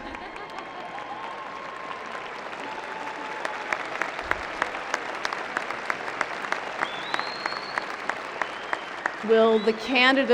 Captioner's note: cheering